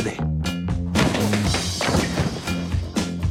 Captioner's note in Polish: upada z hukiem